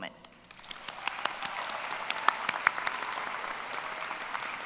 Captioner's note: applause